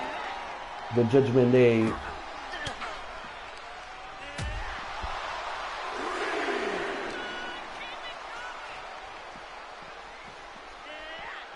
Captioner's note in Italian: Applauso